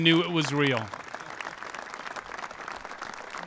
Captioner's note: applause